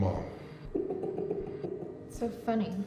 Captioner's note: keith laughs